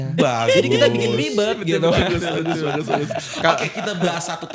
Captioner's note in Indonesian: tertawa